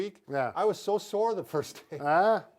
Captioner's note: laughing